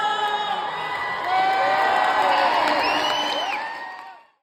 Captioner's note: cheering and applause